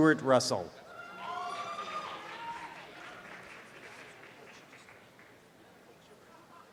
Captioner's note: students cheer and applaud